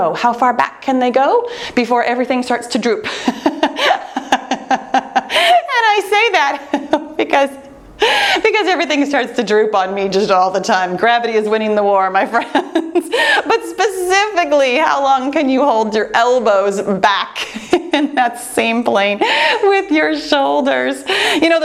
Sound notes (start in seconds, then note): 3.1 laughing